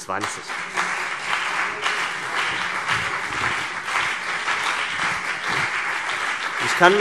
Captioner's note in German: Beifall CDU und BÜNDNIS 90/DIE GRÜNEN